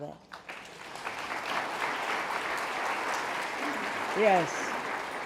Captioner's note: audience applauding